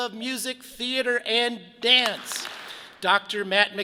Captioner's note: audience claps